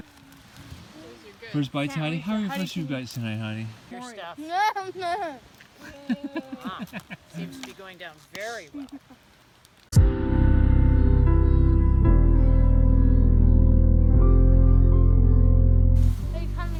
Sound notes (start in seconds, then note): 3.2 laughter; 4.4 happy eating noises